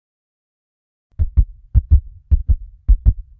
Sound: sound of heartbeat

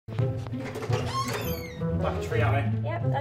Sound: door creaking

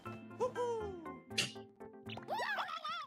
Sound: scoffs; Toads panicking

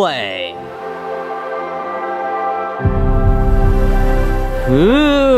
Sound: startup screen trills

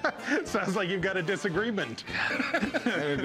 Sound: laughs

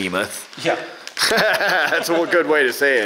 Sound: laughs

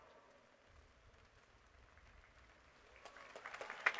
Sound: applause

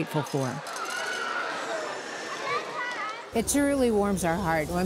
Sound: background chatter

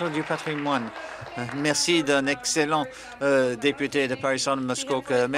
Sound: applause

